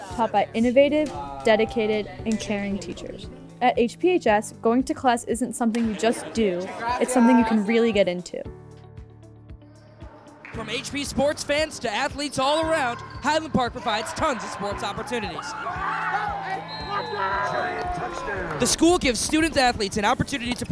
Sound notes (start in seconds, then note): 15.4 whistle blowing; 16.3 crowd cheering